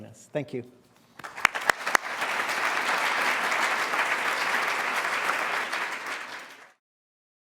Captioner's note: applause